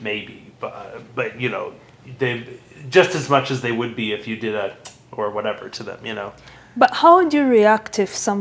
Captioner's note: mouth sound